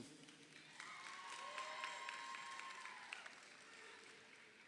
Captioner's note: crowd cheering